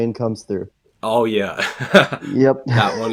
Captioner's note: laughs